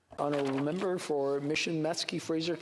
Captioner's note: speaking French